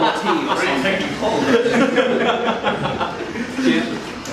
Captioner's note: laughter